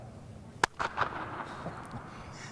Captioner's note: echos; claps hands